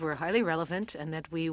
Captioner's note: speaking French